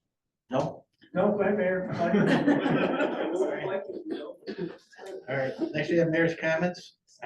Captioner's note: laughter